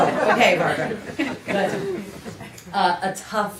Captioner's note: laughter